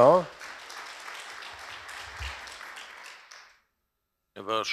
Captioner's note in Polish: oklaski